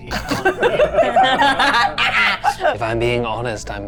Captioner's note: chuckling